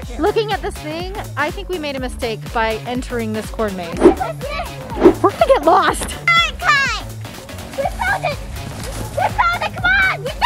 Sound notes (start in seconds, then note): 4.8 woosh sound